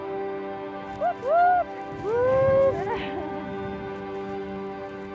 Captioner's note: excited whoops